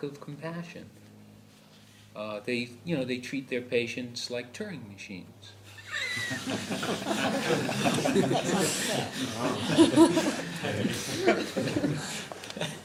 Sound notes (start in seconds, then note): 7.4 laughter